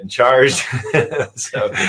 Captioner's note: laughs